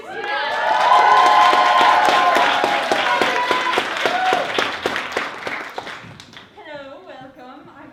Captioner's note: applause